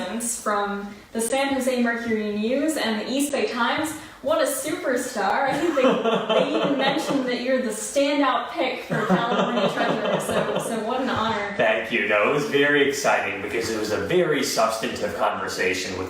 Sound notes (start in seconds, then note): 5.5 laughs